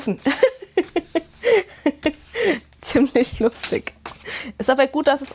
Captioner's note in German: Gelächter